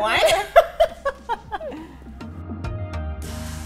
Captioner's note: laughing; upbeat music